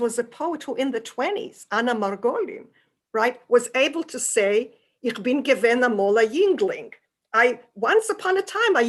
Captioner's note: non-english